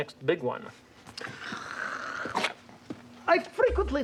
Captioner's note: purring